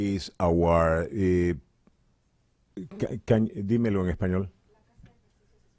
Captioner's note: speaking Spanish